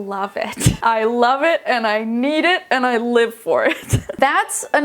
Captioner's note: chuckling